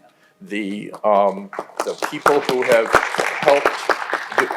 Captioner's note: audience applauding